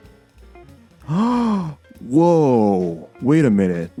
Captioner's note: gasp